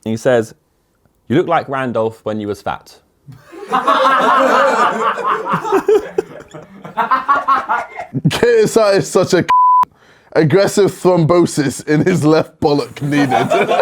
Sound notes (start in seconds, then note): 3.4 audience laughs; 9.5 beep